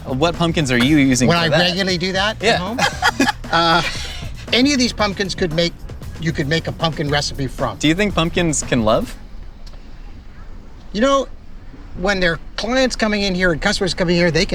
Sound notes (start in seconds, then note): 3.5 laughter